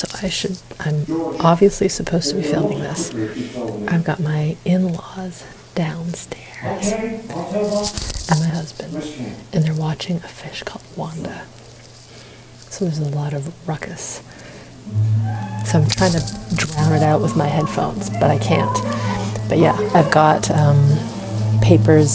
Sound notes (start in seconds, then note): 15.5 loud voices from TV